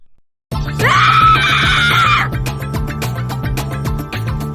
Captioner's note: scream; screams